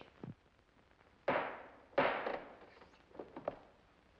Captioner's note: gavel bangs